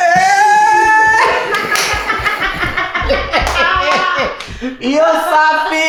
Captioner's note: laughs